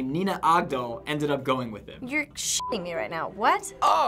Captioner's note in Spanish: pitido